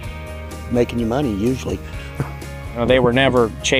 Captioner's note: laughs